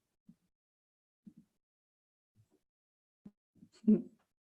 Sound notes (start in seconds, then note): 3.8 laughs